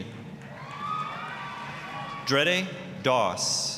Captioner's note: applause, cheering